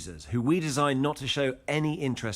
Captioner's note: none